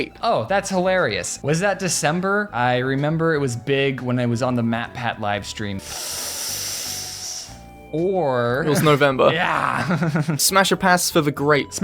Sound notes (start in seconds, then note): 5.8 makes nervous anticipation noise; 8.7 laughs